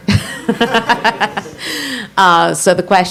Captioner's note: laughs